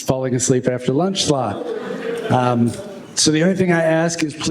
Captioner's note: laughter